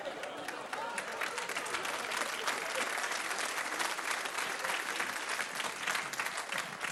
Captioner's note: applause